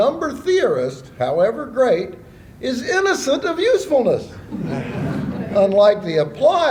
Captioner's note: laughter